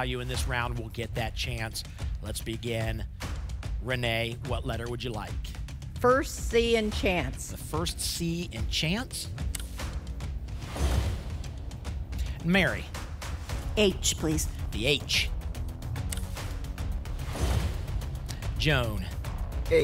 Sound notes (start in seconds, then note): 10.5 thump; 10.5 whoosh; 17.1 whoosh; 17.1 thump